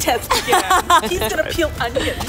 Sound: laughing

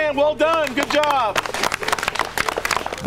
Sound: clapping

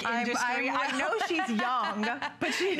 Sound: laughter

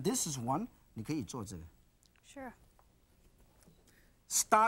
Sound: speaking in foreign language

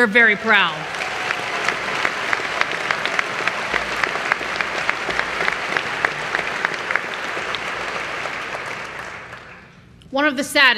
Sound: applause

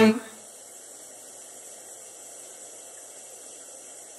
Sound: shower

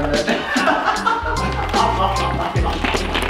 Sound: laughing

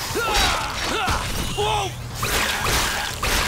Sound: grunting; gasping

